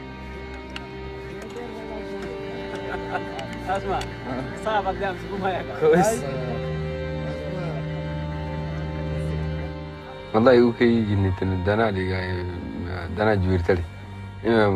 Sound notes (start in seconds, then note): 2.6 man laughs; 3.1 men chattering in Fur